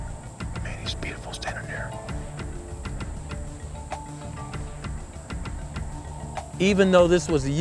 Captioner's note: whispering